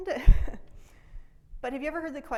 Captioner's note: laughs